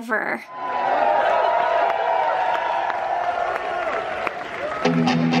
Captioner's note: crowd cheering